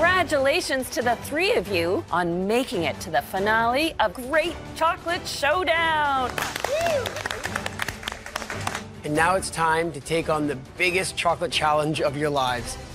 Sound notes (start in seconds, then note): 6.2 applause; 6.6 cheers